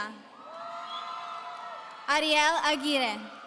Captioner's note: audience cheering